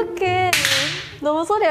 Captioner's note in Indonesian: Pop